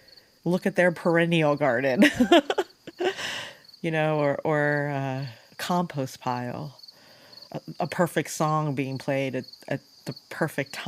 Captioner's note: laughs